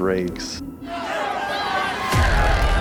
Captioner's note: crowd shouting